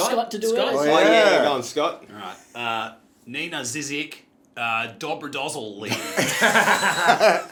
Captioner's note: broad Australian accent; all laugh